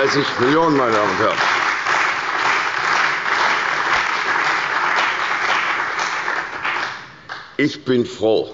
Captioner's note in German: Beifall bei der CDU und dem BÜNDNIS 90/DIE GRÜNEN